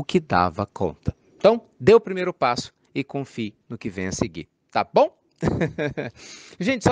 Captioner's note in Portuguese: risos